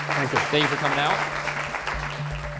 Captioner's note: audience applauding